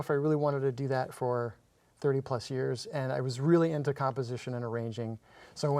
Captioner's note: none